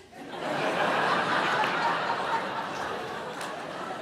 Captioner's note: audience laughing